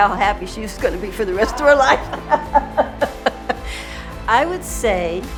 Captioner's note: laughs